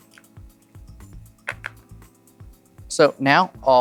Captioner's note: chips clattering